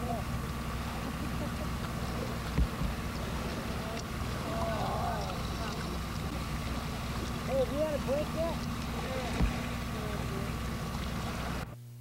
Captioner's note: indistinct chatter